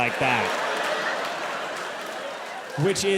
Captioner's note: audience applauding; audience laughs